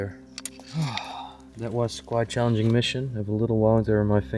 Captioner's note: sigh